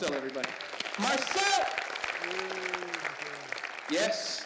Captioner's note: audience applauding